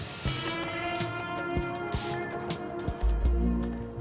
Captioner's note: harsh spraying